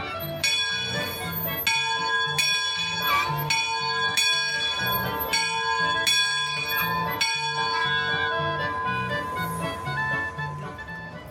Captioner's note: bell ringing